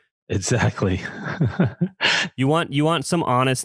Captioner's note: laughs